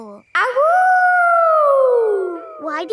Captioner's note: howling